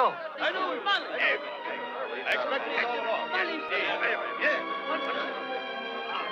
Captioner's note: all chattering; light orchestral music